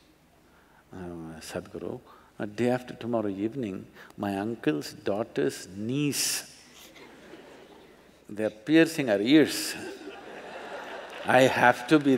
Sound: laughter

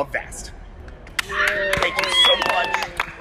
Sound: cheering

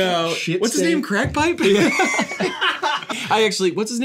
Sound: laughs off-camera

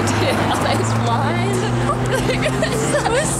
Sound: both laugh

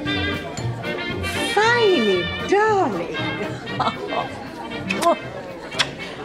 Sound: chuckles

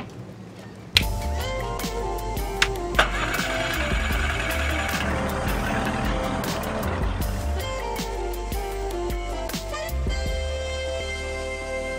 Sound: phone rings

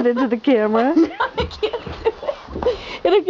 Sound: giggles

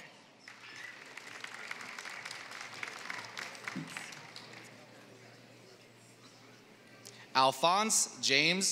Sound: applause

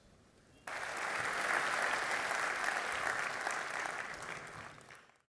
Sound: audience applauding

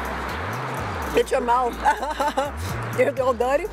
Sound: laughs

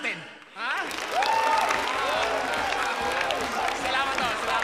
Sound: crowd cheering, applauding

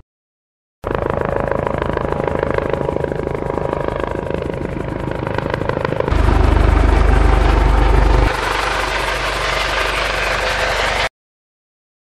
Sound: helicopter whirring

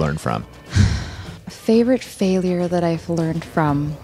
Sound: sighs

